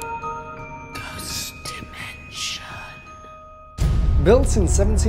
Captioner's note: ghostly Voices